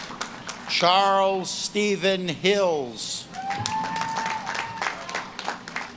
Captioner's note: audience claps and cheers